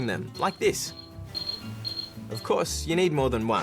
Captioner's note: beeping